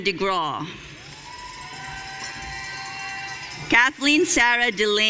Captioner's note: audience cheering